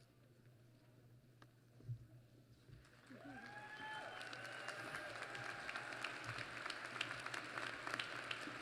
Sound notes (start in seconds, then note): 2.8 applause